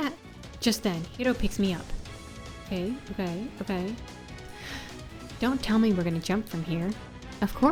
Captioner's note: gasp